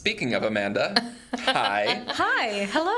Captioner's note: laughs